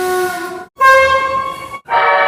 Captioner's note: air Horn